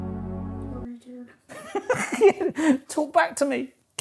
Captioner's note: laughs